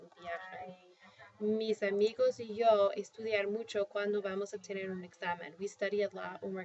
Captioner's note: speaking spanish